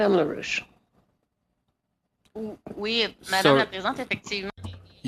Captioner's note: speaking French